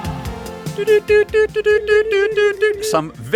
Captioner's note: morse code noises